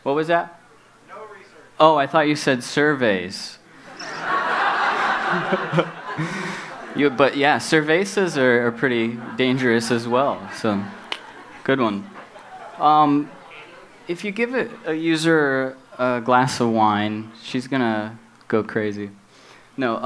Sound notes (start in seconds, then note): 4.0 laughs